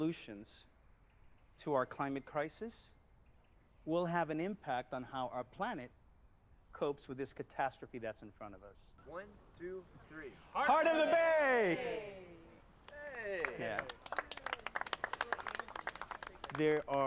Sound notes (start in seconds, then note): 10.7 applause